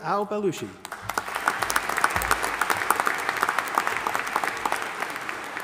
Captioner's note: audience applauding